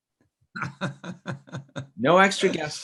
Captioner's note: laughs